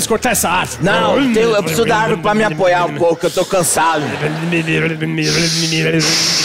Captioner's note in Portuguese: motor